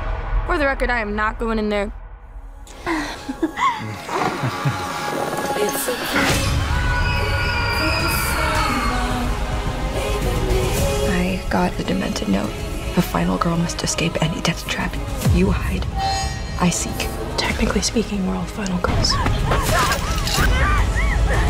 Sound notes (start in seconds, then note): 2.8 both giggling; 6.5 screaming; 19.4 panting, whimpering